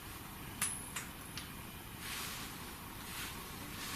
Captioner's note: soft clink